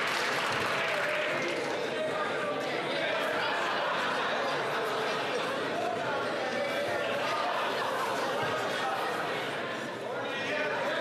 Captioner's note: some Applause